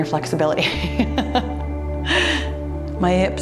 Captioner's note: laughs